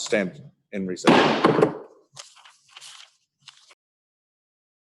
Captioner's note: bangs Gavel